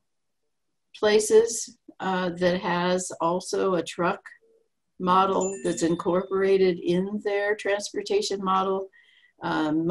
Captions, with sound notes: places that has also a truck model that's incorporated (phone message alerts) in their transportation model.